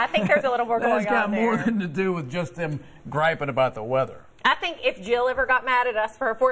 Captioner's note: laughter